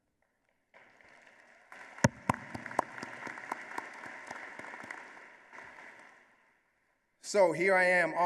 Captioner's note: applause